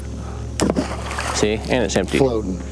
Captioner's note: water splashes